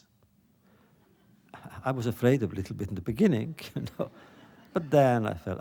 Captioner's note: laughter